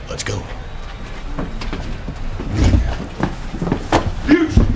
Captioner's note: feet shuffling